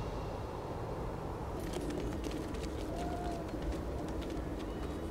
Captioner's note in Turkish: At nalı sesi; Rüzgâr sesi